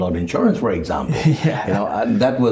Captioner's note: laughs